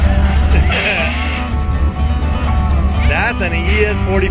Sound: laughs

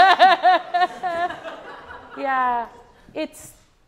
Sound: laughs

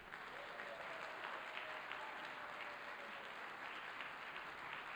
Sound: audience applauding

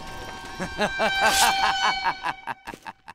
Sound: maniac laughter

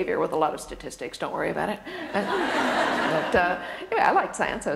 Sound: laughter

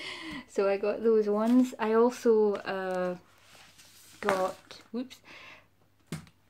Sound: books falling

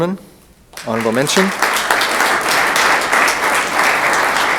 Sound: room applauds

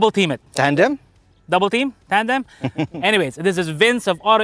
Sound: laughs

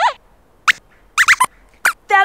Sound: squeaks squeaks

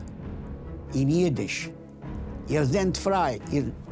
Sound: speaking Yiddish

